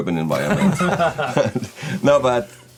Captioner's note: laughing